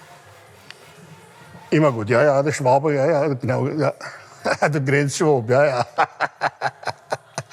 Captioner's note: laughter